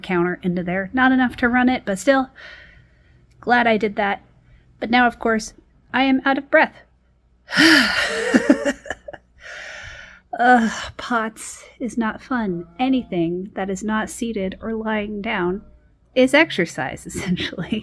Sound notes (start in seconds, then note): 7.5 sighs; 7.5 laughs; 9.4 exhales sharply